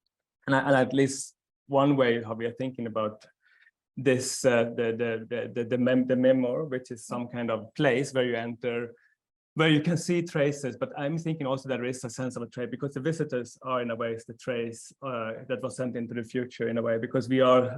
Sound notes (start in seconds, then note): 4.6 stammering